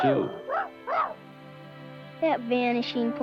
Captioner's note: Arrow barking